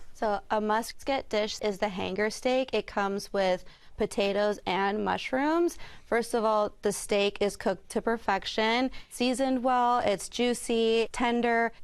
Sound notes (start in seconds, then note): none